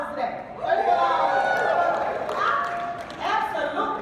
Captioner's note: cheering